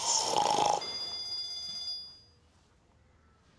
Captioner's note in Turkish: Telefon zil sesi